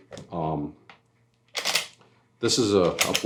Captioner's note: gun cocking